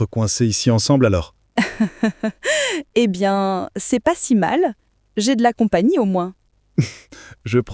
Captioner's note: laughs